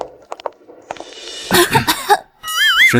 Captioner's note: cough, cough